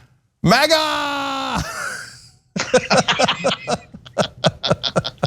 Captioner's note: laugh